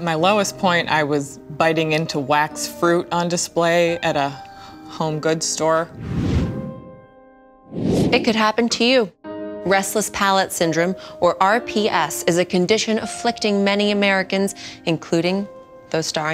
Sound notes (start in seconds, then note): 5.8 whoosh